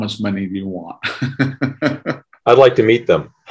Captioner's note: laughs